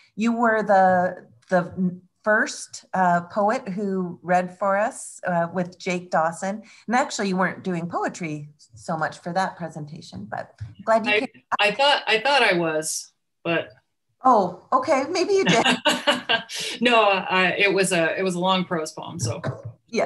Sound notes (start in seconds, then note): 15.4 both laughing